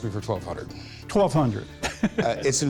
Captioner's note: laughs